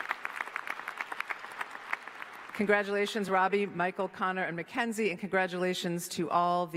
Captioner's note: applause